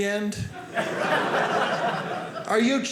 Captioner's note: audience laughing